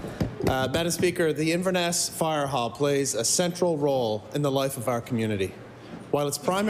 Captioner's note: table Pounding